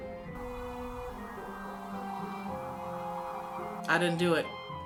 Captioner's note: sirens wailing